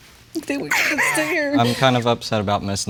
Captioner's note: whimpers